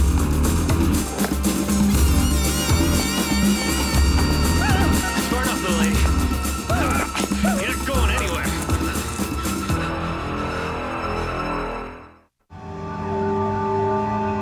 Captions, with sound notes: (Nora gasps) - That's far enough, little lady. You're not going anywhere.